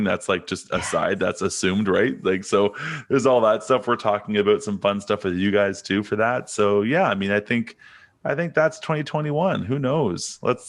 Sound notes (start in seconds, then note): 2.5 chuckles